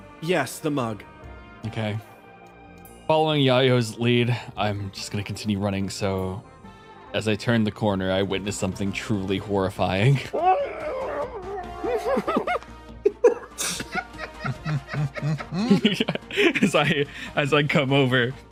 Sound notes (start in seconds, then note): 10.3 muffled AAAAAAAAAAAAAAAAAAAA; 13.0 laughs